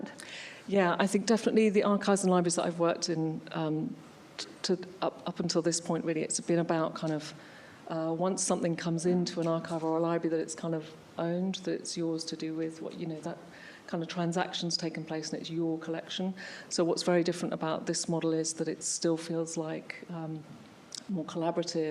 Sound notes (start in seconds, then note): none